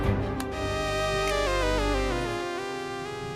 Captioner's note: Snaps finger